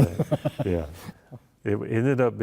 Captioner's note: laughter